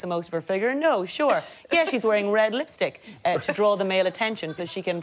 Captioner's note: laughter